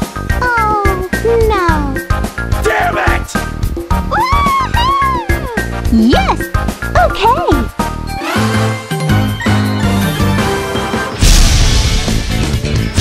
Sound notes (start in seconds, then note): 4.1 cheers